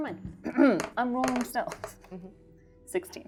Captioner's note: die rolling